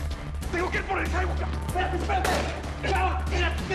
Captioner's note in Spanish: Disparo